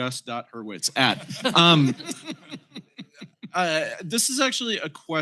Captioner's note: laughter